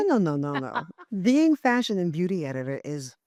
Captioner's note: laughing